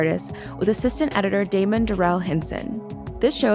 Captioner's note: none